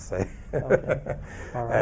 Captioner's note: chuckles